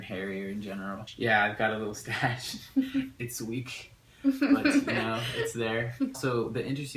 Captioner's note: chuckle